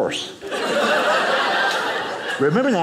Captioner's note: audience laughing